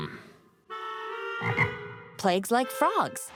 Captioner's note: ribbit